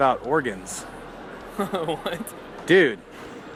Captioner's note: laughing